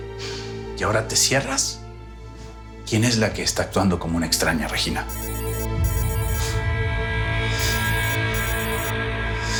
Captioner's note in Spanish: timbre de celular